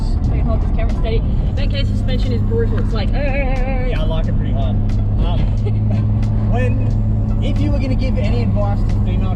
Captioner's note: turbulence; laughs